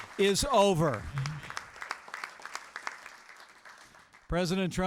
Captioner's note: applause